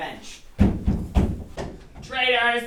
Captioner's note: pounding